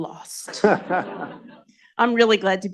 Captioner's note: audience groans